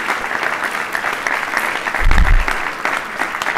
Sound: applause

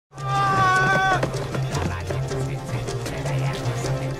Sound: shouting

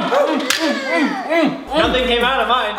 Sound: grunts

